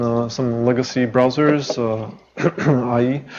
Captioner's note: intentional cough